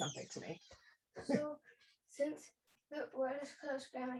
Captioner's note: chuckles